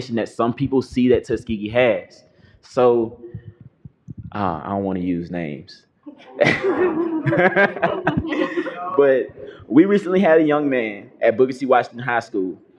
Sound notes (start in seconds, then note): 6.2 laughter